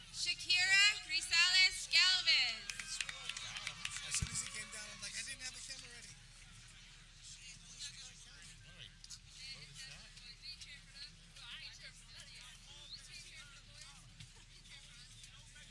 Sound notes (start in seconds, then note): 2.0 people clapping